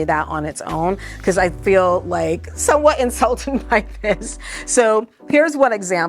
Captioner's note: chuckles